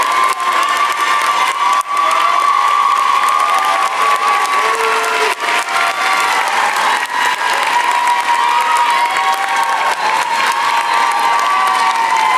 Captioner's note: applause